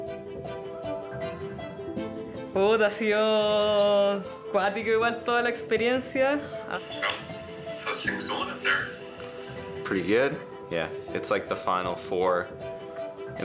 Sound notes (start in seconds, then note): 0.2 bright upbeat music; 2.6 speaking in foreign language